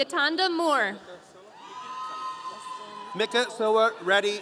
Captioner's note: audience cheering